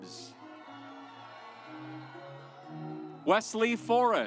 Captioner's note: audience applauds